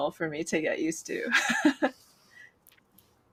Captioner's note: laughs